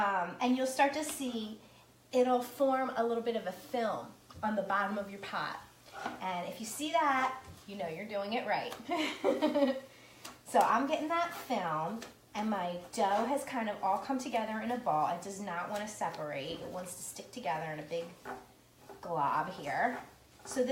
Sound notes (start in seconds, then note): 8.9 laughs